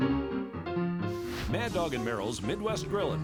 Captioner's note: brand searing